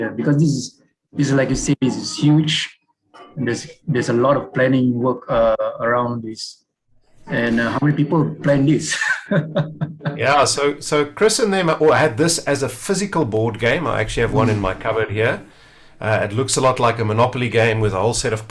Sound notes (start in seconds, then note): 9.3 chuckles softly